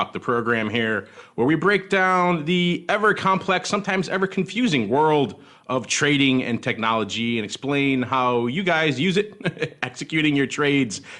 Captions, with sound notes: the program here, where we break down the ever complex sometimes ever confusing world of trading and technology and explain how you guys use it (laughs) executing your trades